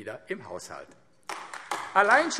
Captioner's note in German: Beifall AfD